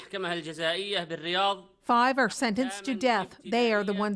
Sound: speaking foreign language

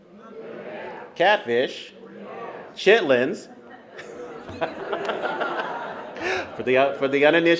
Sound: laughs

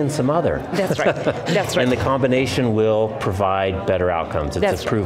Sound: chuckles

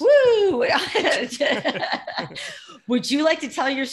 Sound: laughing

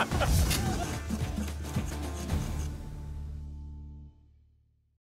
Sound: crash, laughter

